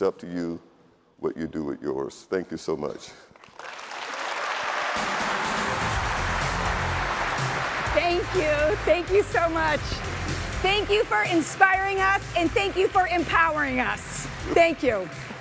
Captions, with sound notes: and it's up to you what you do with yours. Thank you so much. (audience applauding) (upbeat music) - Thank you. Thank you so much. Thank you for inspiring us and thank you for empowering us, thank you.